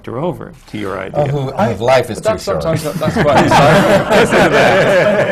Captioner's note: laughter